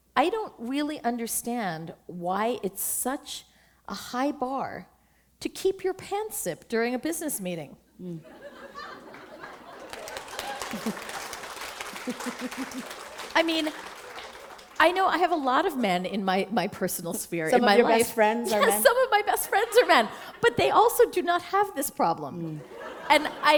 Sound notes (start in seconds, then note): 8.2 laughter; 9.1 applause